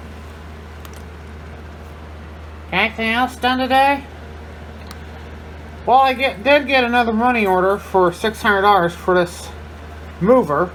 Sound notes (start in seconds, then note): none